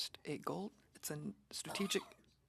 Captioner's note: speaking French